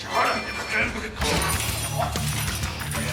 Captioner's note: chatter